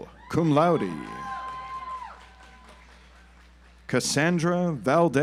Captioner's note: audience applauds